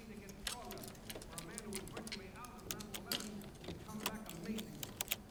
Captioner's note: clicking sounds